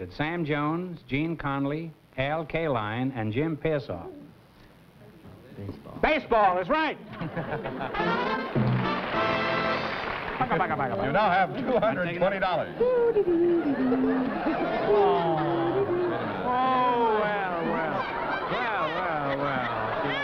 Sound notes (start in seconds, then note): 12.7 groucho vocalizing; 15.0 baby crying